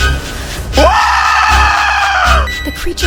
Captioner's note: screaming